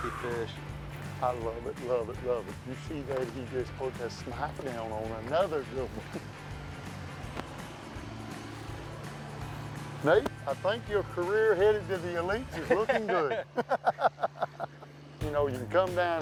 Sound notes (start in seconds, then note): 12.4 laughter